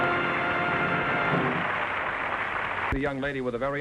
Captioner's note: theme music & applause; applause